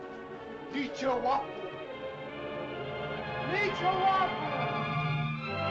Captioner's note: suspenseful music; speaking in caveman language; triumphant music